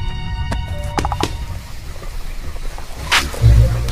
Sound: smoke hiss

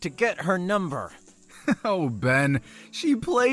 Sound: laughing

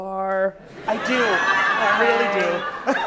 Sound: audience laughing

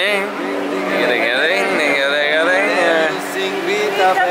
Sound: making strumming noises

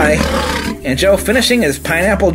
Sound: lion growling

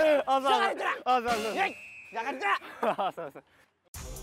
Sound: shouting

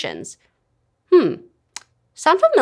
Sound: smacks lips

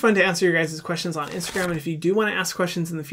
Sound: whooshing

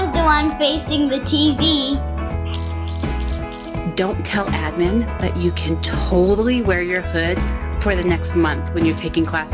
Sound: crickets sound

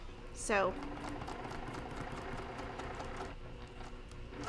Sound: machine whirring

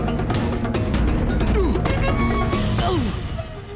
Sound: grunting

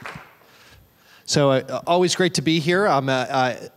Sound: applause

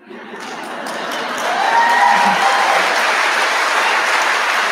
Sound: audience applauding

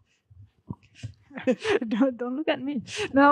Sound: laughing

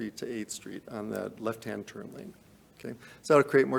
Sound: none

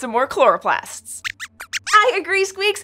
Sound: squeaks squeaks excitedly

